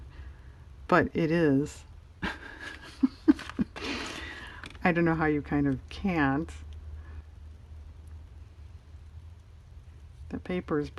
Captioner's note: laughs